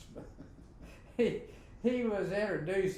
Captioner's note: both laughing